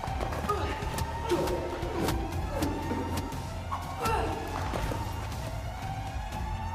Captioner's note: blows thudding; alarm wailing